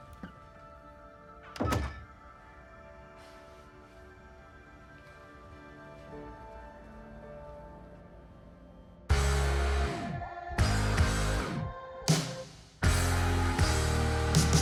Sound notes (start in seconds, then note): 3.1 sighs; 10.5 upbeat music